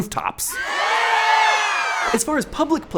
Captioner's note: shouting